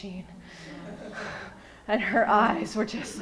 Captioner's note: laughing